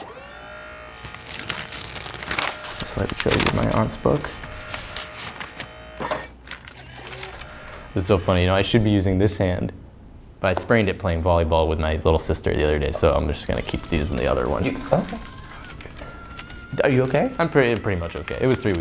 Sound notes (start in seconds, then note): 0.1 whirring; 1.5 pages ripping